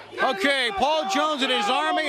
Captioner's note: crowd cheering